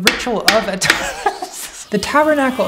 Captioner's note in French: rires